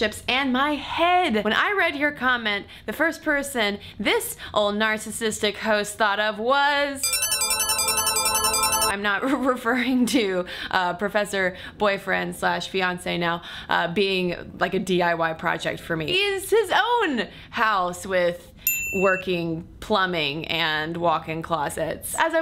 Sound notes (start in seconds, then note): 7.0 bells chiming